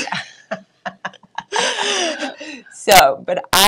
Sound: chuckling

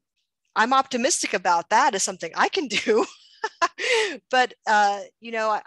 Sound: laughs

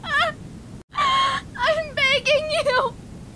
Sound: crying

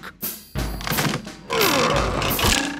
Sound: wood creaking; boings

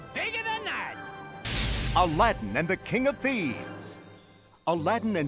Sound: narrator reading

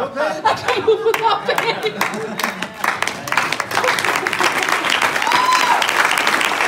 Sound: clapping

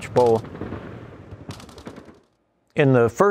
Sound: guns firing

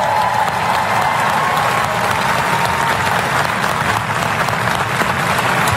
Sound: applause

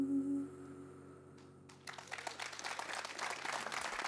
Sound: applause

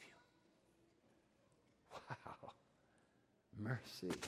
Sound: chuckling

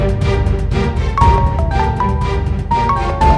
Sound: phone ringing

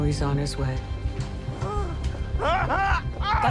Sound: grunting and shouting

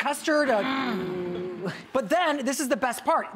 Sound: audience oohing

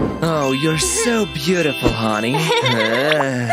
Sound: laughs

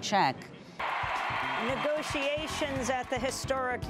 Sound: sound of cheering. Music resumes

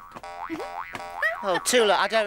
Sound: bouncing

